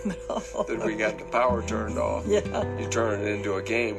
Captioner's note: laughs; laughs